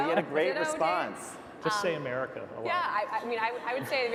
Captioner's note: laughs